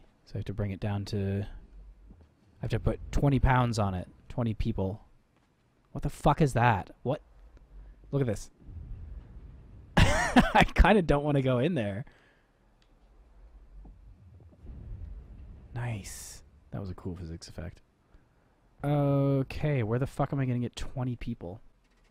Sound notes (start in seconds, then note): 8.4 boom; 10.0 laughing; 13.3 boom